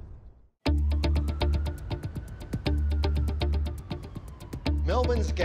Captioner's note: mysterious music; police siren wailing